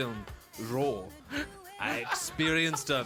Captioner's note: the boys losing it